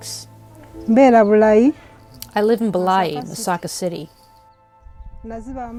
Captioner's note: speaking in Luganda